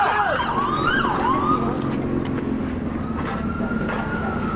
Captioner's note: siren wailing